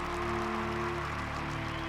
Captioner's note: crowd cheers